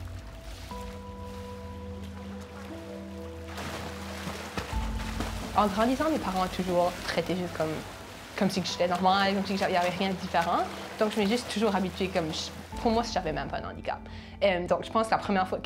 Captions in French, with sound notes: (bruit de l'eau) (éclaboussements) En grandissant, mes parents m'ont toujours traitée juste comme si j'étais normale, comme s'il n'y avait rien de différent donc je m'ai juste toujours habituée comme pour moi, j'avais même pas un handicap. Donc je pense que la première fois